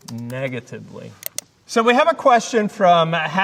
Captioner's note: mouse clicking